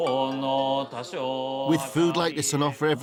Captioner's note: chanting